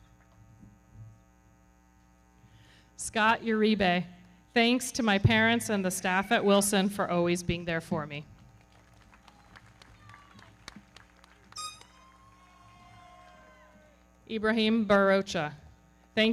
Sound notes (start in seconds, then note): 8.3 everybody clapping; 8.8 audience cheering